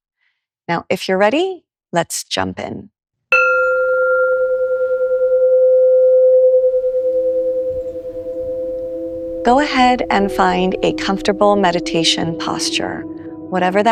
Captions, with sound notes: Now, if you’re ready, let’s jump in. [Gong chimes] [Slow, meditative music begins] Go ahead and find a comfortable meditation posture, whatever